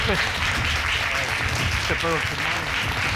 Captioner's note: audience applauding